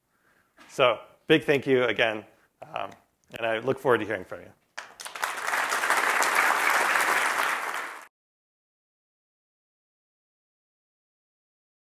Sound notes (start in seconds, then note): 4.7 applause